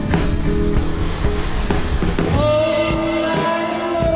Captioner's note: plane engine roaring